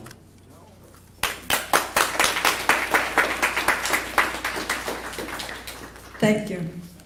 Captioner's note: applause